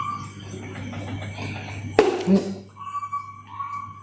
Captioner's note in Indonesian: tertawa